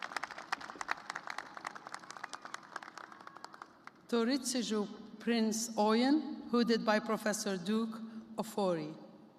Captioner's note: applause